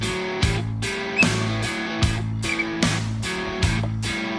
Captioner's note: whistles; upbeat metal music continues